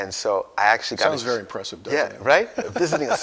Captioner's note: laughs